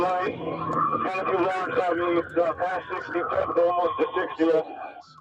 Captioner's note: radio chatter